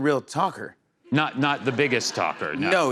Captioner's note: laughter